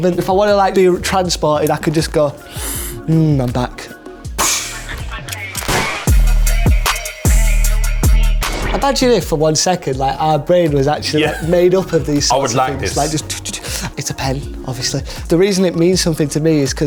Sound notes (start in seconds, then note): 2.4 sniffs